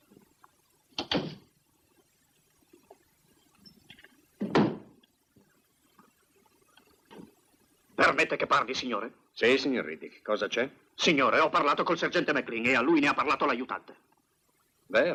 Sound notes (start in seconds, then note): 4.4 stamps floor